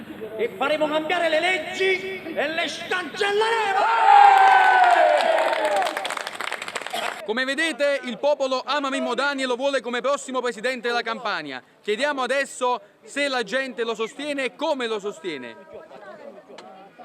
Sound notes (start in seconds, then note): 4.2 crowd applauds and rejoices